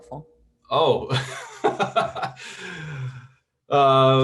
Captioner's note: laughs